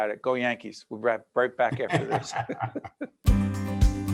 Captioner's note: laughing